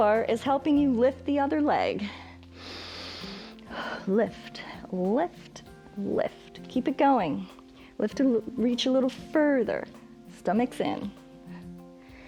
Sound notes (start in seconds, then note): 2.1 inhales and exhales